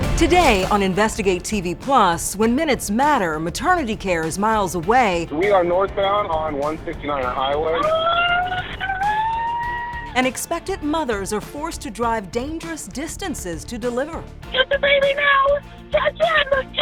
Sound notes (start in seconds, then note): 8.1 screaming